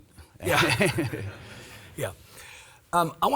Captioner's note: laugh